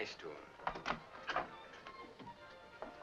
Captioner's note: door opens